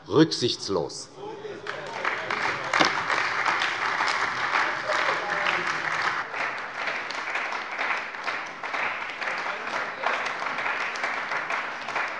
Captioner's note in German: Anhaltender Beifall bei der CDU - Beifall bei dem BÜNDNIS 90/DIE GRÜNEN